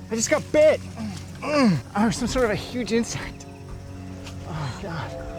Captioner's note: grunts